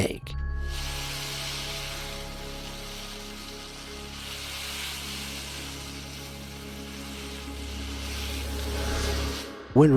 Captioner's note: gloves swashes